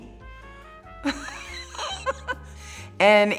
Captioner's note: laughing